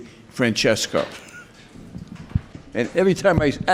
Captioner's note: laughs